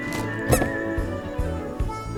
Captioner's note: squeaks